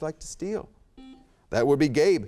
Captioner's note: buzzer chimes